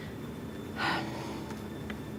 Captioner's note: sighs